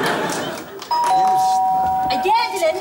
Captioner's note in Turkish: Zil çalar